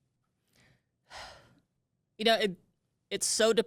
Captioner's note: sighs